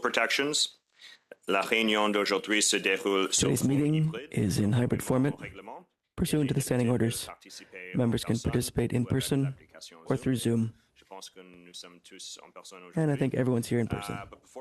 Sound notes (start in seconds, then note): 8.5 speaking French